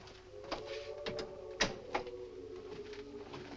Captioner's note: door closes